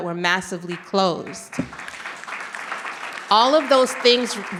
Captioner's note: audience clapping